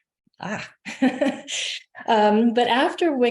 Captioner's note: chuckling